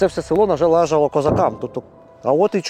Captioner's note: explosion in the distance